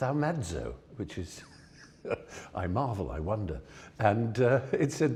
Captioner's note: laughs